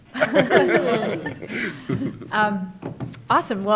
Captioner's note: laughing